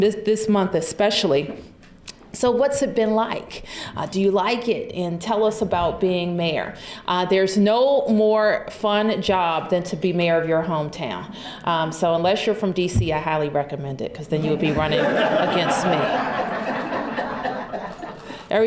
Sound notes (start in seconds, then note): 17.1 laughter